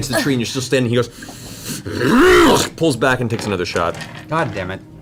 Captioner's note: angry roar